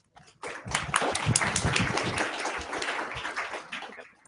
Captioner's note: applause